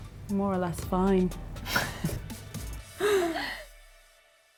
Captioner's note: laughs